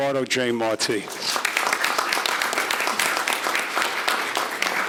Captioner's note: audience applauding